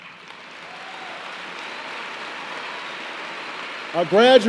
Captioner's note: applause